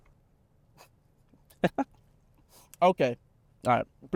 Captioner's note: Dylan laughs